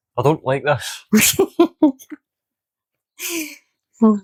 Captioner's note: laughs